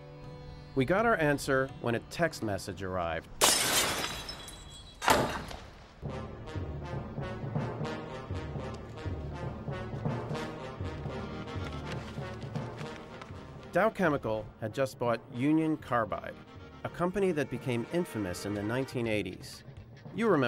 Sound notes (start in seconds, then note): 3.4 glass shattering